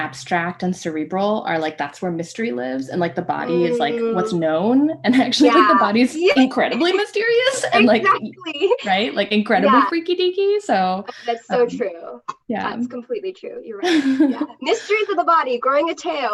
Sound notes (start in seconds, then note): 7.5 laughter